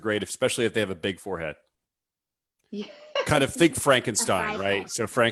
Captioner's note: laughs